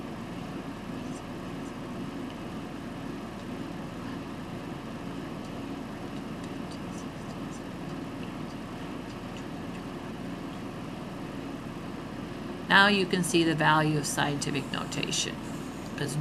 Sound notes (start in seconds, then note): 1.3 whispering